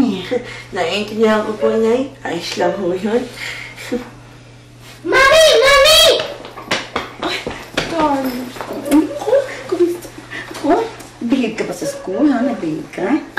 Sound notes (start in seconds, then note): 0.2 Toni chuckle; 8.4 kisses